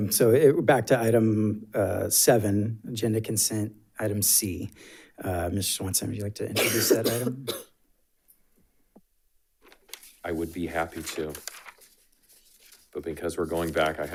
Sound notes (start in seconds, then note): 6.5 coughing; 9.6 paper rustling